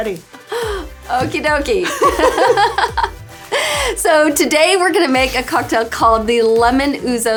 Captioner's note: laughs